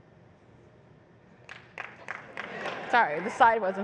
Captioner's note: applause